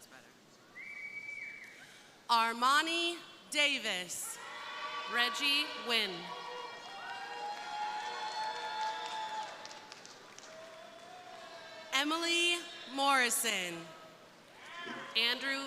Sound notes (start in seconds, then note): 3.9 crowd cheering; 6.2 crowd applauding; 6.7 crowd cheering; 14.4 crowd cheering